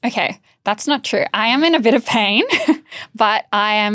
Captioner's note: chuckles